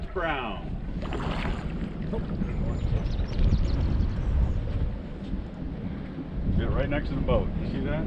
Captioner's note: fish splashing